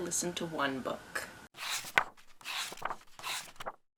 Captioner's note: pages turning